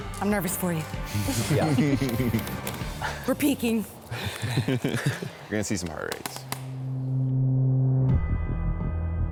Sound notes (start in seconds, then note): 1.2 participants laugh; 4.2 participants laugh; 6.8 tense music